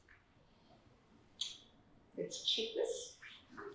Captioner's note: none